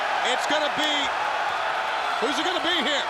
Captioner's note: audience cheers